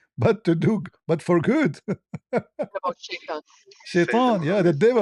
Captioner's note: ketawa